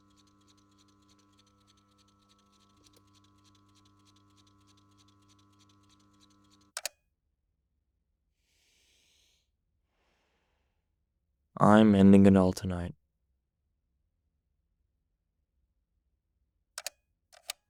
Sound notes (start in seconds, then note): 0.0 soft ticking sound; 6.0 soft ticking sound; 6.7 click sound; 9.8 breathing sound; 17.3 clicking sound